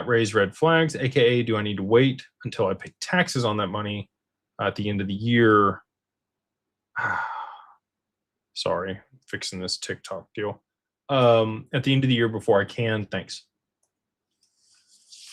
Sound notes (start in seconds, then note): 6.9 sighs